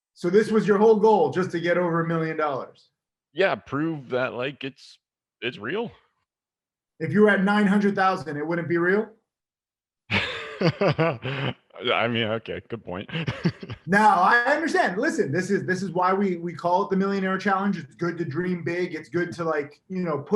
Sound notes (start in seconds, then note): 10.1 laughs